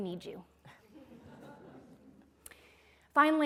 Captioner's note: laughter